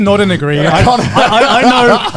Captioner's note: laughing